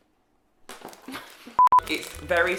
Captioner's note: beeps